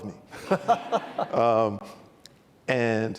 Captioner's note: laughs